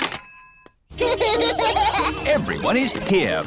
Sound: children laughing

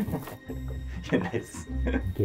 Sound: laughing

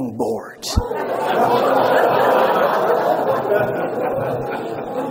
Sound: audience laughs

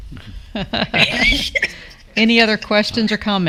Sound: laughs

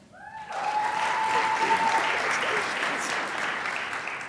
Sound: crowd applauds

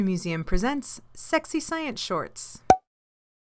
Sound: pop

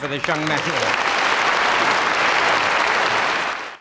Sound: audience applauding

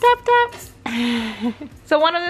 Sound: giggling

